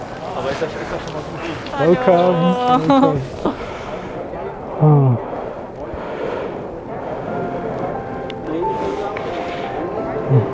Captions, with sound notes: - Hello. - Welcome! (contented sighing) (bright music)